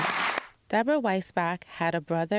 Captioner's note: applause